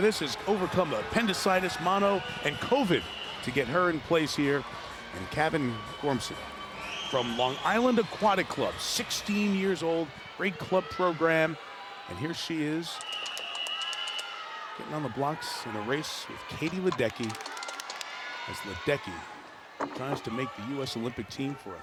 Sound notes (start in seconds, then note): 13.0 clapping sound; 13.1 cheering sound